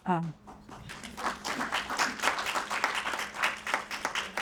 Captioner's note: audience applauds